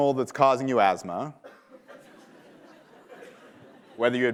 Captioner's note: laughter